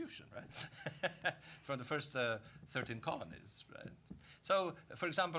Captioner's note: laughing